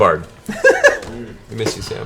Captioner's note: laughs